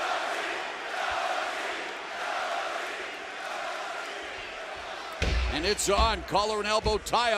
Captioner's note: fans chanting